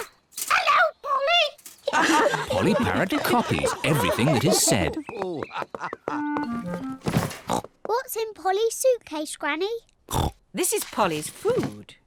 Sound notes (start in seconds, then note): 1.9 all laugh